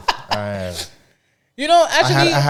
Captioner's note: laughing